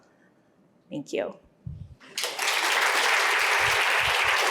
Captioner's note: applause